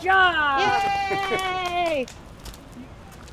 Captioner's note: Nicole claps